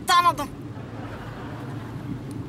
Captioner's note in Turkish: Gülme efekti